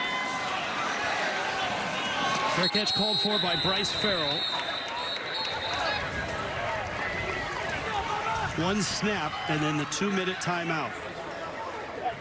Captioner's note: whistle